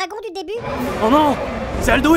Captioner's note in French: cri de dragon